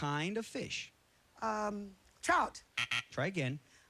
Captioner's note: buzzer